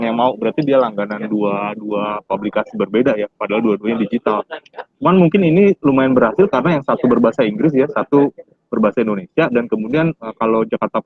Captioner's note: speaking indonesian